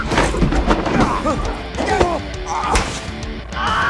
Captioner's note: both grunting; screams